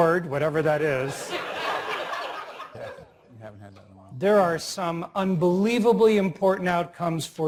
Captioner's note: laugh